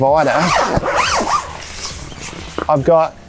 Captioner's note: zipper sound